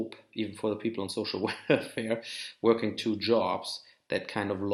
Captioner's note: laughs